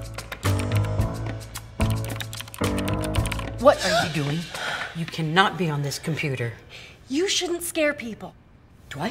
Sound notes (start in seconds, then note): 4.4 Brit gasps